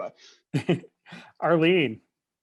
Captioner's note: laughing